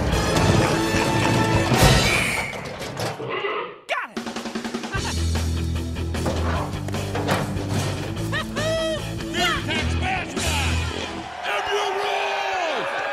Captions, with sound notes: Got it! (Yells as the trap he set worked) Fear Tech's mascot! MU rules!